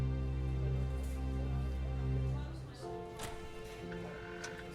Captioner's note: crowd chatting